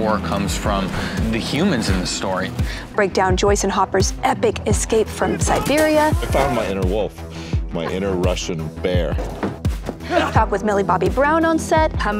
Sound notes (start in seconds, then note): 9.9 man grunts